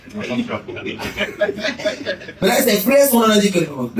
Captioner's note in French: rires